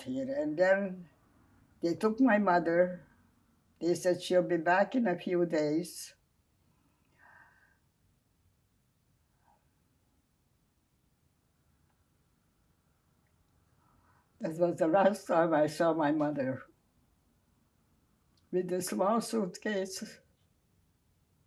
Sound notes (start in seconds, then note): 6.2 pauses 8 seconds